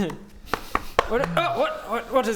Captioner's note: knock knock knock